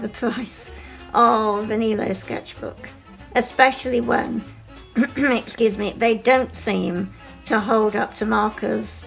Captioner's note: clears throat